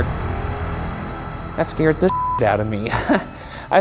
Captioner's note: beep